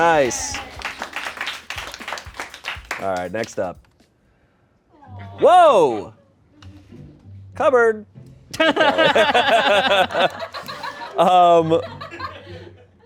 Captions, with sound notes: Nice. (audience applauds) All right, next up. Whoa! Cupboard. (laughs) (laughter)